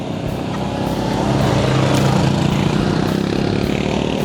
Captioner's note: ATVs roar past